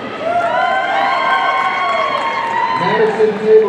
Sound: audience cheering

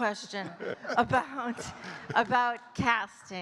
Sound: chuckling

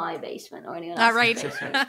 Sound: laughs

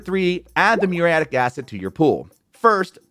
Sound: graphics popping

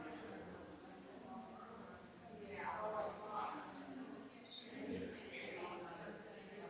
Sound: people chattering distantly continues

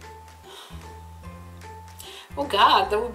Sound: heavy breath

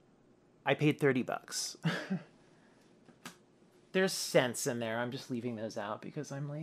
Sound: laughs

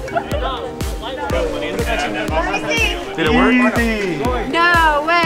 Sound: crowd talking

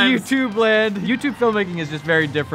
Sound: laughs

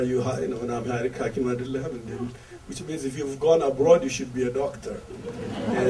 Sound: crowd laughter

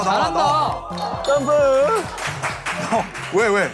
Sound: laughter from the next team

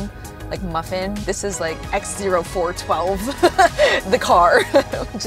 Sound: laughs

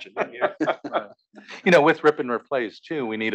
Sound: laugh

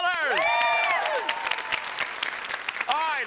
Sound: applause

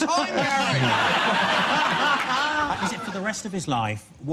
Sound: audience laughs

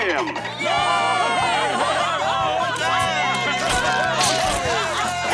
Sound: cheering

